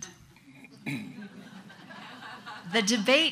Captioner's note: audience laughs